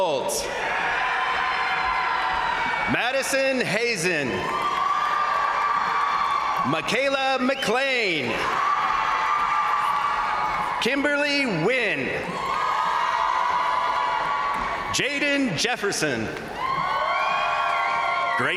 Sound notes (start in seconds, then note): 0.2 crowd cheering; 0.5 crowd applauding; 4.3 crowd cheering; 8.1 crowd applauding; 8.1 crowd cheering; 12.1 crowd applauding; 12.1 crowd cheering; 16.1 crowd cheering; 16.2 crowd applauding